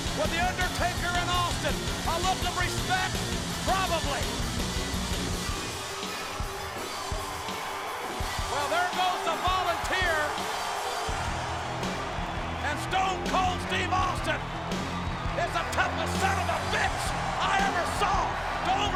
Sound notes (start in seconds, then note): 5.2 audience cheers; 5.2 upbeat music continues